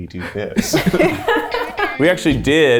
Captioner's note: laughter